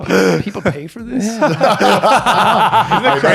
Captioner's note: laughing